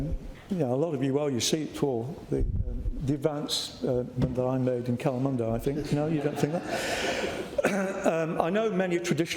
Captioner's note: laughter